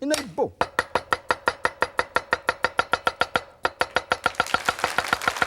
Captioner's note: knife chops fast; audience applauds